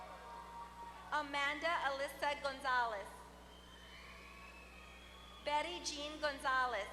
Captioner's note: applause; applause